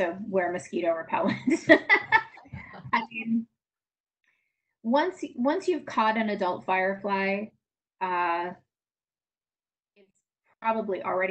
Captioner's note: laughs